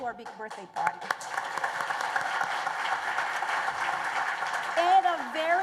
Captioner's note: applause